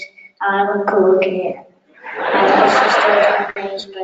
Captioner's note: audience laughing